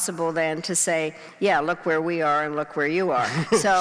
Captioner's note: laughing